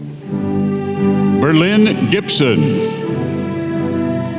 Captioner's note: none